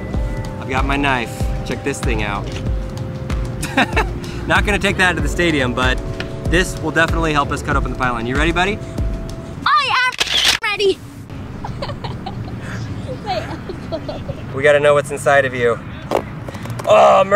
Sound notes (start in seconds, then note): 3.6 laughs; 11.6 giggles